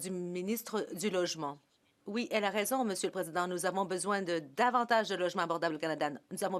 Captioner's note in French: voix de l'interprète